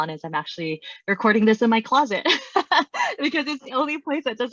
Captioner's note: laughs